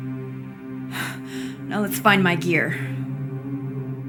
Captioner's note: gasping